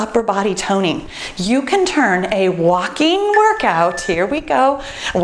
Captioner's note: timer beeps